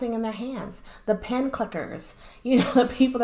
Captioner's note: laughter